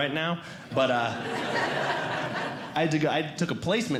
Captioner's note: audience Laughing